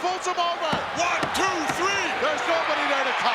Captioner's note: hand pounding